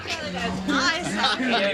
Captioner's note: laughs